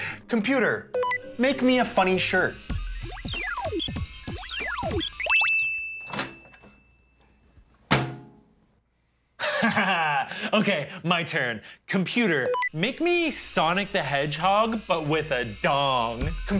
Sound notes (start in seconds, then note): 0.9 beeping; 1.9 whirring; 5.4 dinging; 7.8 thudding; 9.4 laughing; 12.4 beeping; 16.4 whirring